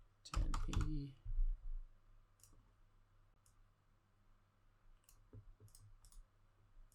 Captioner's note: mouse clicking